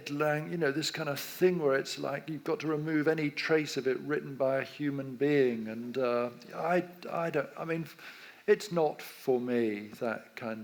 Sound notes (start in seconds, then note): none